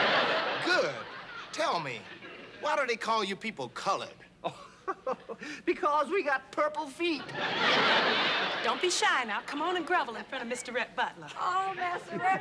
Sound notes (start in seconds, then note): 4.4 laughs; 7.2 laughter